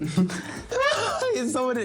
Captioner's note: laughs